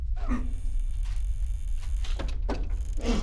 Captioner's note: door creaking